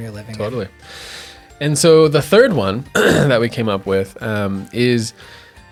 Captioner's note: throat clears